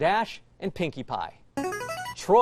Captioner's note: buzzer